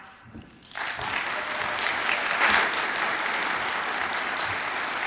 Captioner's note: audience applauds and cheers